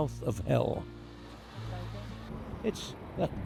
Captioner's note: waves splash